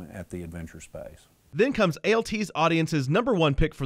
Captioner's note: voiceover